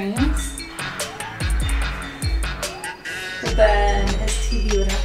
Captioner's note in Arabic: تتنهد